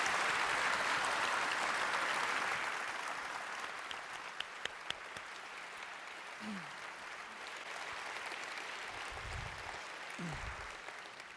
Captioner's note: applause